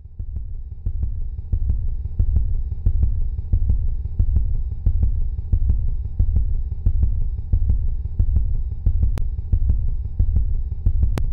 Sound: sound of heart beating

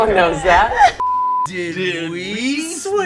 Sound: beep

